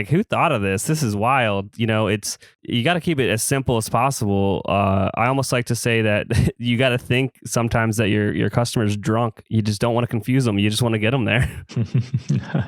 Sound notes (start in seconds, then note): 6.2 laughs